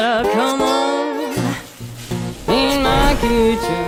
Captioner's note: meat sizzling